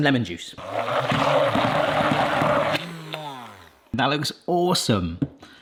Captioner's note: blender whirs